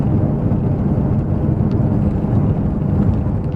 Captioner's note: engine noise